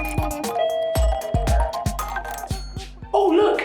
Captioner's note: lift door chimes open